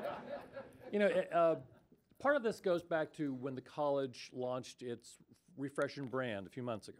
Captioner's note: laughter